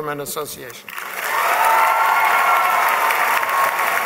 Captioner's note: applause